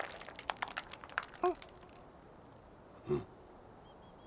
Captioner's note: grunting